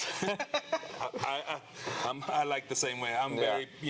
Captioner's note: laughing